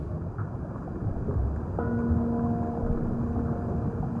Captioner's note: gong sounding